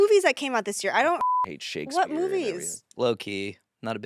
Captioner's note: beep